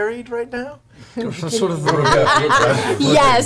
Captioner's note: all laugh